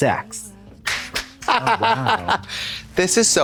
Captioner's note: Trixie claps and clucks